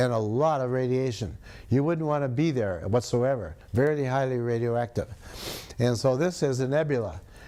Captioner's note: sniffs